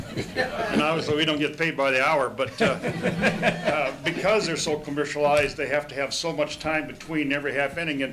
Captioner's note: laughter; laughter